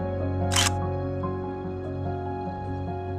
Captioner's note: camera click